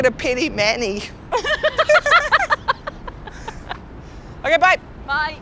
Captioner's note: laughing